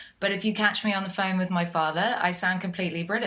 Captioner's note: british accent